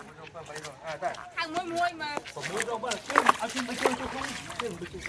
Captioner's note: sound of people preparing themselves to captured the great moment